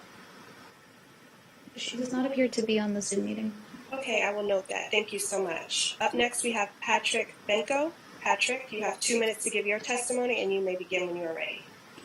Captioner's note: spanish